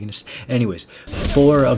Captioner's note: inhale